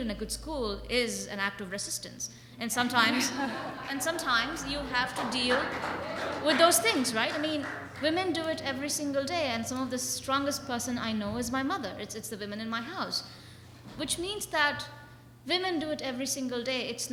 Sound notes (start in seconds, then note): 2.8 audience chuckles; 6.1 audience applauds